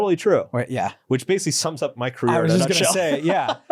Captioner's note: laughs